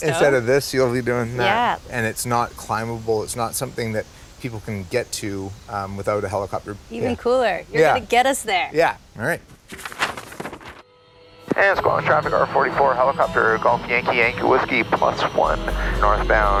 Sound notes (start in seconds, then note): 10.1 helicopter blades whirring